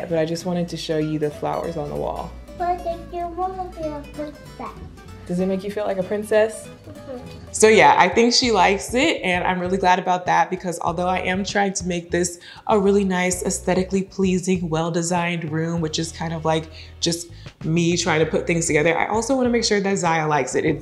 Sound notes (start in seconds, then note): 2.7 mumbling